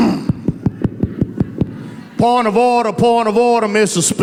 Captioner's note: in a Texas Senator's voice